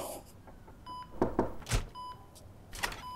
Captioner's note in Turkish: Kapı Açılıuor